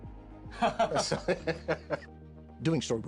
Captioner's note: laughs